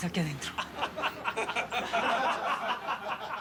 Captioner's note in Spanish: risas